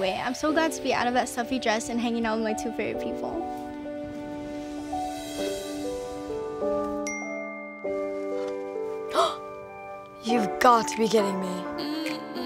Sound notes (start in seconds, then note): 7.0 bell dings; 9.5 gasps